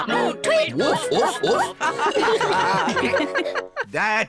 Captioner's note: all giggle